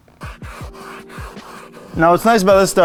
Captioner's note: brush scrubbing